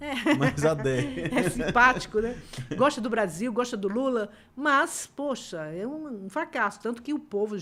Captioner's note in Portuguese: risadas